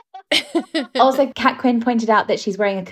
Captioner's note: both laughing